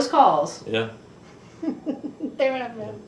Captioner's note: laughs